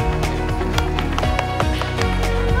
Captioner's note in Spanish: Aplausos